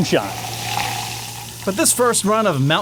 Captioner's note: fizzing